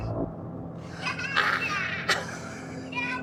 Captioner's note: laughs